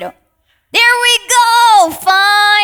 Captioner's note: participant faintly speaking